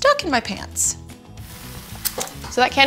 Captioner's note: pouring sand